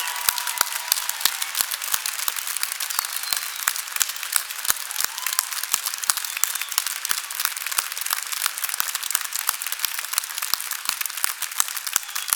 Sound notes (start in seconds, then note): 3.4 cheers and applause